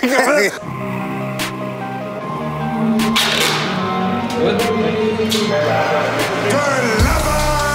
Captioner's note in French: rire